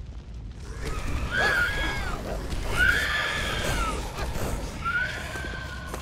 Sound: Grimm squawking, growling, barking

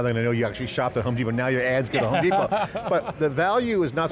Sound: laughing

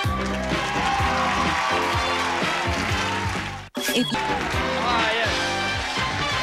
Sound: audience applauding

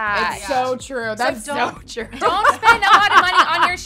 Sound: laugh

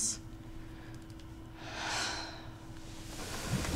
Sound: both sigh

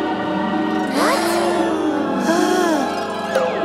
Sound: gasping

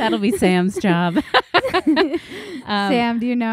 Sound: laughing

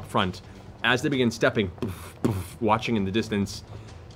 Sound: mimics footsteps

